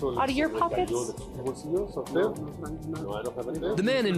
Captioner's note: speaking spanish